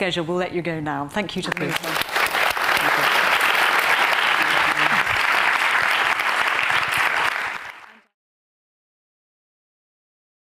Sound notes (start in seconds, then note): 1.4 audience clapping